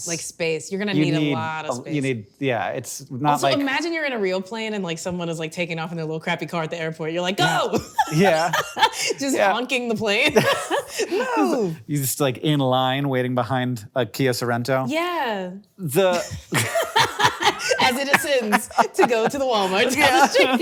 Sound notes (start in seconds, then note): 7.4 laughing; 16.1 both laughing